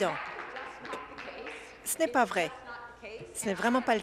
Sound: applause

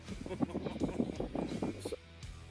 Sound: wind rumbling; laughter; moderate rock music

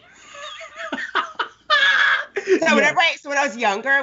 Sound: Brennan laughs

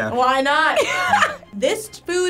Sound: cackling

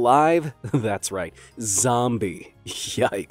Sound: chuckles

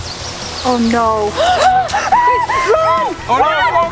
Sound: family gasps

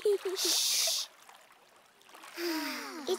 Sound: gibble goose girls sighing

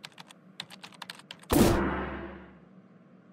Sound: poof

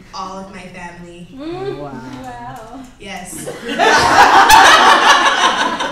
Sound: laughs

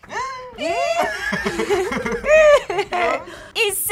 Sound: both laugh; laughs

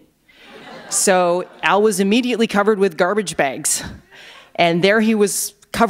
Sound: laughter

